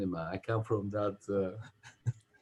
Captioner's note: chuckles